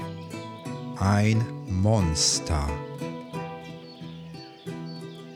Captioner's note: german